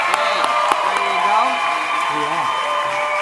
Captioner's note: applause